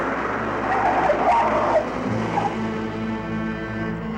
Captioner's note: tires screeching